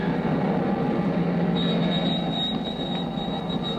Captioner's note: wind howling